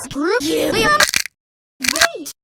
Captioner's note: neck snap!